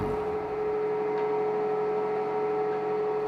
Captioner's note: high machine whirring